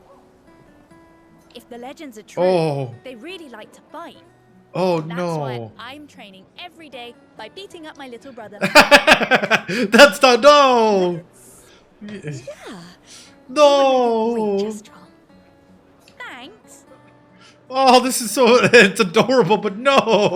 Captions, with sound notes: If the legends are true, they really like to fight. Oh no. That's what I'm training every day by beating up my little brother. (laughing) That's not, no. No. Thanks. Oh, this is so, it's adorable, but no.